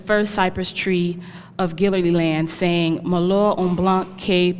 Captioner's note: speaking french